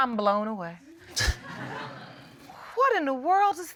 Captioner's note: scattered laughter